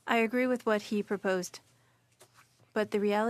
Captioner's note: speaking French